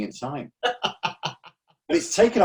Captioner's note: laughs